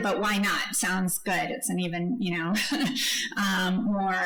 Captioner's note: laughs